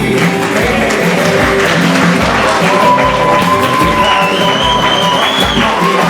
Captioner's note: applause and cheering